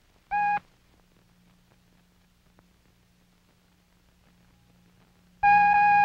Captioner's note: short beep